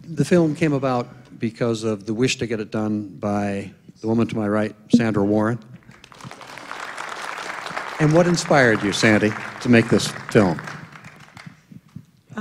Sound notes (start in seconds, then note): 5.8 applause